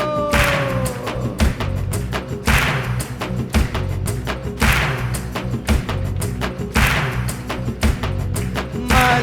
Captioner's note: claps